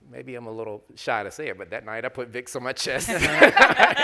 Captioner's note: panelists laughing